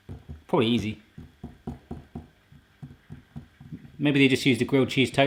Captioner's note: taps fingers